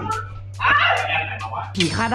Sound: screams

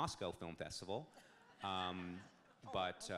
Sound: audience laughs

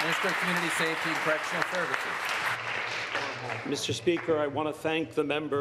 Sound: applause

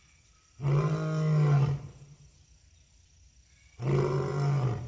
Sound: lion Roar

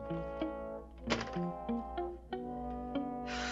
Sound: sighs

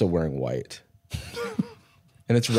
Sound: laughs

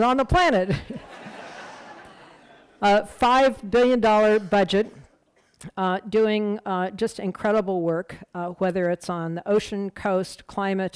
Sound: laughter

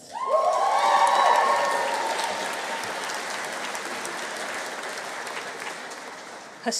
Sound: audience cheering; audience applauding

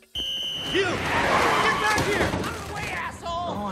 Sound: cashier blows a whistle; car screech

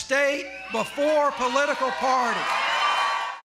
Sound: cheering and applause

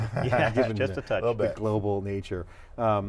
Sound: laughs

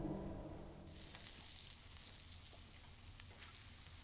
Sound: meat sizzling

